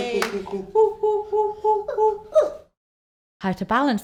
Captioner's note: monkey impression